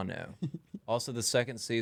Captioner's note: laughing